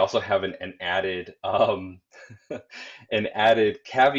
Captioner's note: chuckling